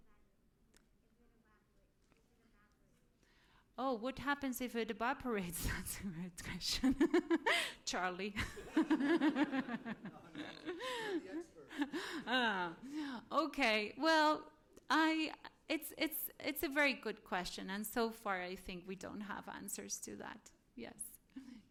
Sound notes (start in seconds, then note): 5.3 chuckles; 8.3 laughter